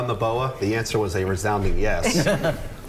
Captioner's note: laughter